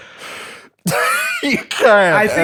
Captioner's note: laughter